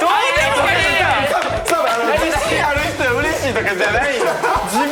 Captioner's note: laughs